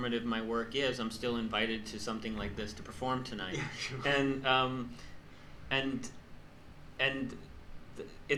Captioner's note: laughs